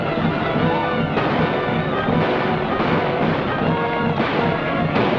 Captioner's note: gunfire